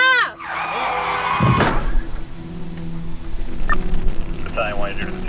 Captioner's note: tires screeching; car crashing